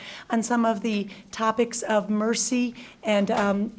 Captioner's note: none